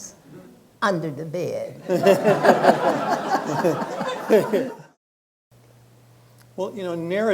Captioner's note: laughter